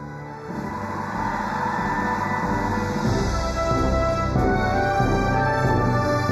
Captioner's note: crowd cheering